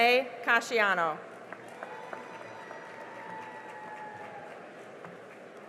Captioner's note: cheering and applause